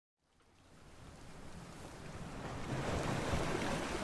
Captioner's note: waves gushing